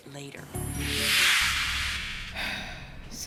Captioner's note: whoosh; deep sigh